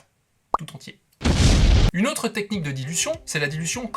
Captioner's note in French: bruit d'explosion